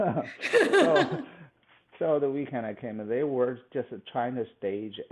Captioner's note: laughs